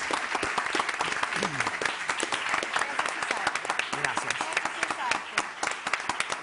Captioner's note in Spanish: Aplausos